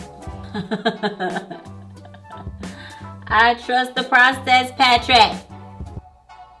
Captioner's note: laughs